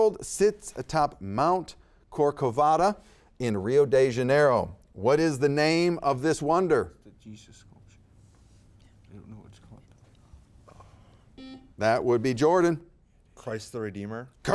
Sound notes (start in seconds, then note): 11.3 buzzer beeping